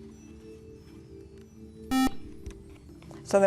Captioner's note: buzzer